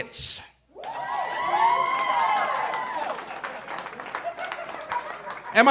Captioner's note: audience cheering